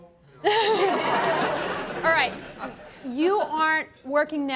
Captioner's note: audience laughs